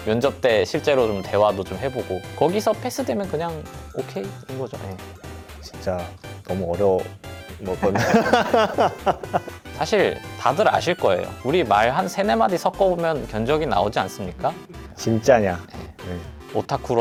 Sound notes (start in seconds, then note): 7.8 laughs